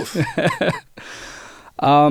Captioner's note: laughing